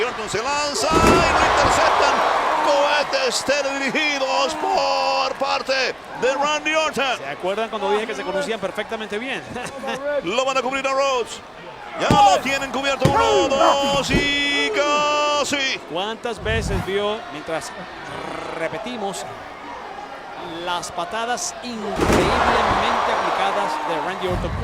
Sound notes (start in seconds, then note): 9.3 laugh